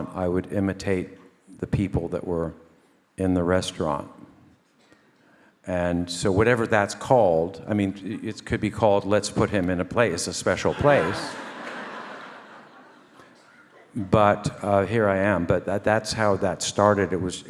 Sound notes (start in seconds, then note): 10.5 audience laugh